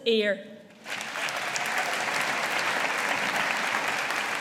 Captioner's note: audience applauding